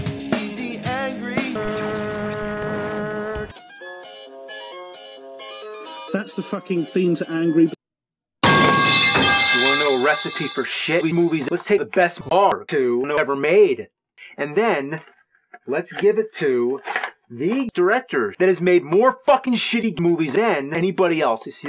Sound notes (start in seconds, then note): 8.4 metal pipe falling